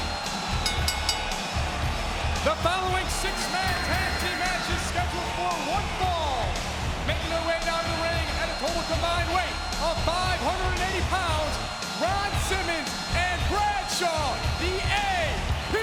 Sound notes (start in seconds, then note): 0.5 bell ringing